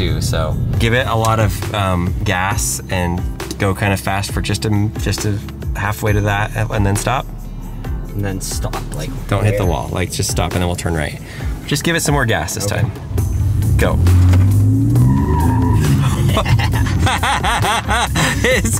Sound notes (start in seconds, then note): 14.6 tires screeching; 15.7 laughing